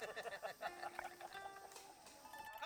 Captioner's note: laughing